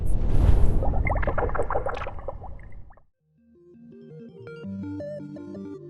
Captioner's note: dramatic bubbling; soft electronic music